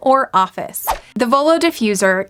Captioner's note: whoosh